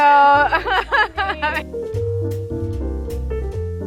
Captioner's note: laughing